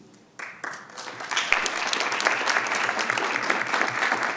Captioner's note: audience applauding